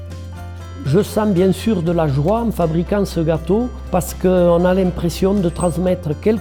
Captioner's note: speaking in foreign language